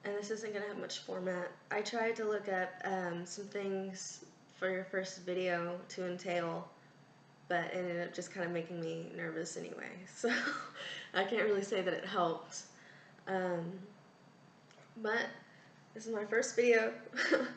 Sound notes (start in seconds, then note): 10.4 laughs